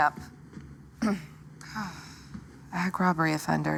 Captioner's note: clears throat, sighs